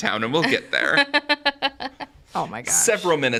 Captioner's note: laughs